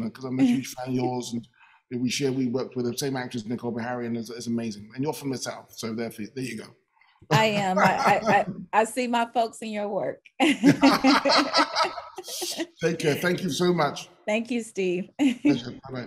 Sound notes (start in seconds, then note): 10.4 both laughing